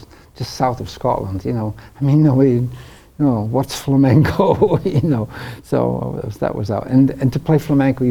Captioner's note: laughs